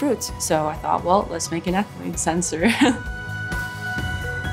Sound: laughs

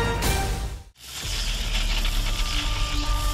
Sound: sound effect playing

